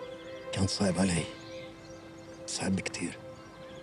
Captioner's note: speaks in arabic